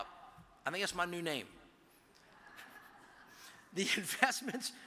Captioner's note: audience chuckles